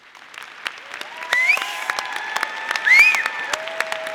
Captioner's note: audience applauding